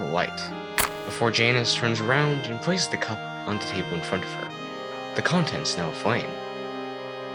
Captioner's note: sparking noise